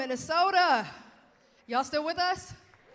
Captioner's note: cheers